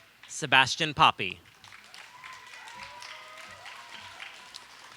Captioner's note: audience applauds